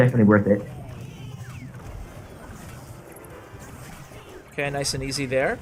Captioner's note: game sounds